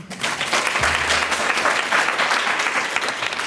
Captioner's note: applause